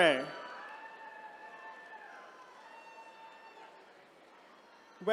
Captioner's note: attendees cheering